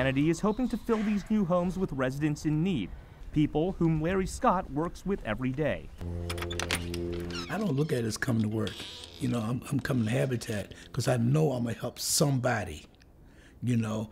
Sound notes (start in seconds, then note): 6.1 opening door